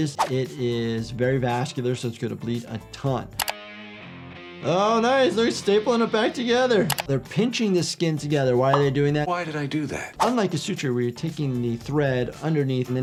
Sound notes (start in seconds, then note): 3.4 keyboard clicking; 3.4 upbeat music; 6.9 keyboard clicking